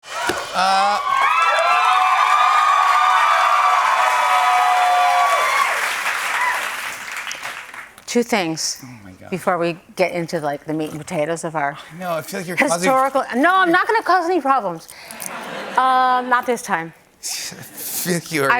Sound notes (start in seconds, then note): 1.6 cheers and applause; 15.2 laughter